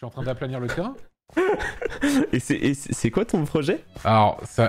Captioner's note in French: rire